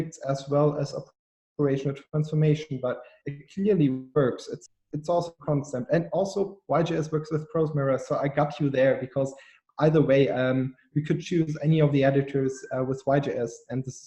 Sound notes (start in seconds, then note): 5.0 audio cutting out